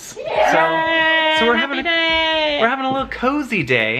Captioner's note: cheers